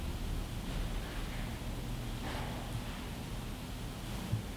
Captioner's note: footsteps shuffling